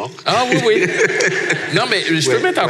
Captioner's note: laughs